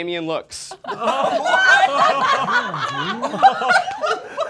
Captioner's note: all laughing